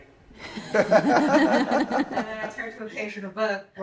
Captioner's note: laughing